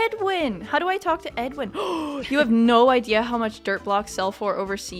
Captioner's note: gasp